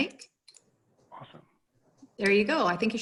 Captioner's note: mouse clicking